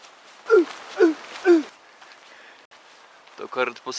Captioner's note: Przemek's barking